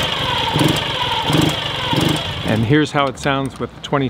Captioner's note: engine roaring